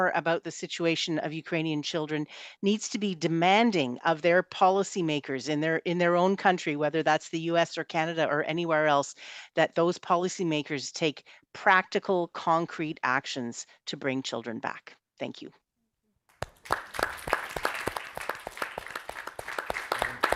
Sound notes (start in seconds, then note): 16.4 all applauding